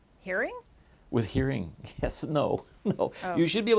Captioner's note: chuckles